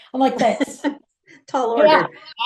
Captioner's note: laughs